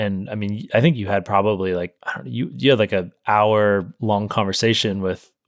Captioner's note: none